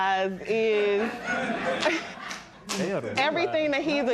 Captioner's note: laughter